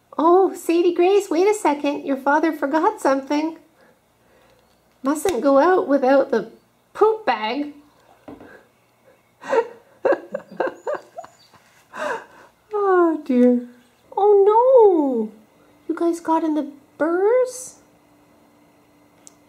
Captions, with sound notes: Oh, Sadie Grace, wait a second! Your father forgot something! Mustn’t go out without the poop bag! (laughing) Oh dear! Oh no! You guys got into the burrs?